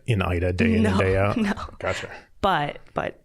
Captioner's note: chuckling